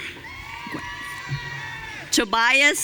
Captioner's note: audience cheering